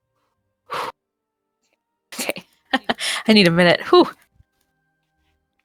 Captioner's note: exhales